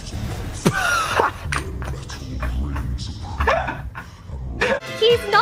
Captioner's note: dies of laughter